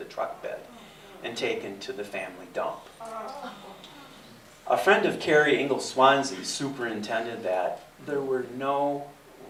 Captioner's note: audience gasps